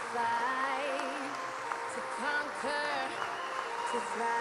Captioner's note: applause